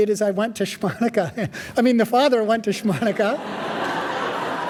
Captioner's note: laughing; audience laughing